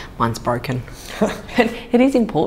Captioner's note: laughter